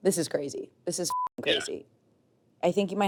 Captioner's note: beep